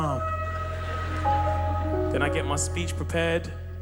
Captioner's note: bursts out laughing